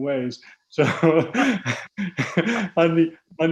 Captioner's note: laughs